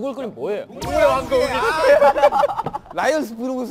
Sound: shudders

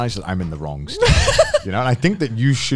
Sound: laughs

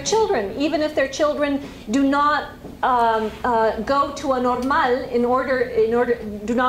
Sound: spanish

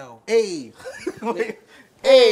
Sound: laughs

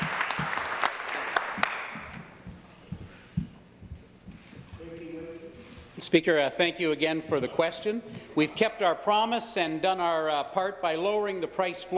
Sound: applause

